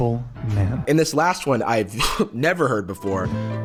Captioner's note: scoffs